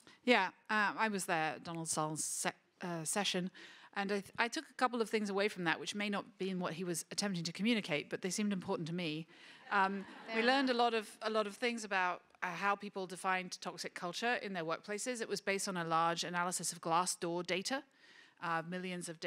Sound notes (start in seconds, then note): 9.8 laughter